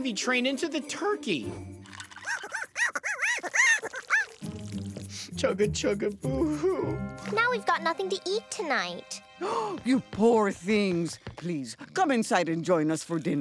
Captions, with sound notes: into the turkey. [chattering] Chugga-chugga boo hoo. Now we've got nothing to eat tonight. [gasping] You poor things. Please, come inside and join us for dinner.